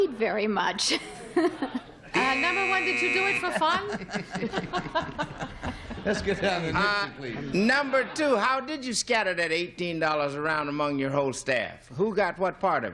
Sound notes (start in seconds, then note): 2.1 buzzer; 3.2 laughs; 5.2 chuckling